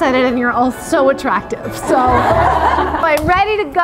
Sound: laughing

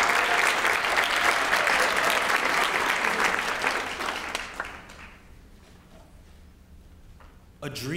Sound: applause

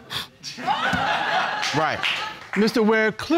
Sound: audience laughing

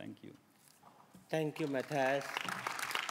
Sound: applause

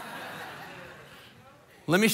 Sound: congregation laughing

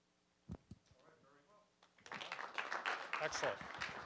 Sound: applause

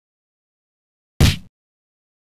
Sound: kick sound effect

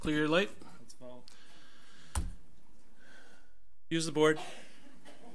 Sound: board member mumbles

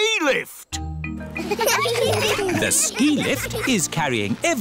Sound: laughter

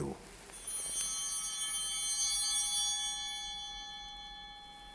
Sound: altar bell ringing

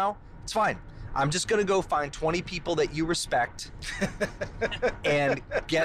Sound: laughter

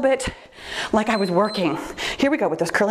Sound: timer beeps

